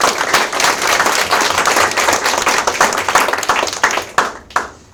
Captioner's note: audience applauds